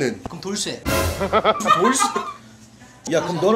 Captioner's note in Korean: 푸하핳핳ㅎ핳ㅎ